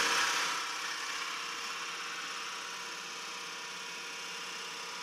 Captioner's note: machine whirring